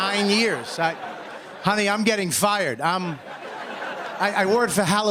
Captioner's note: laughter